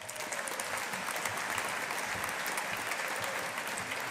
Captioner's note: audience applauding